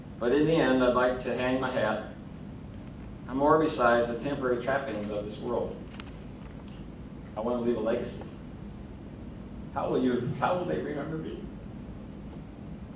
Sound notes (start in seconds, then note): none